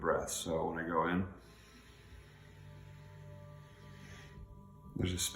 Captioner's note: breathing deeply